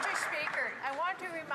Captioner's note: some Applause